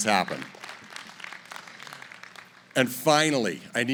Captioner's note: applause